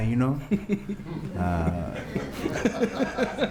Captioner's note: laughter